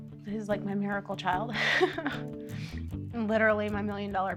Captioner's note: laughs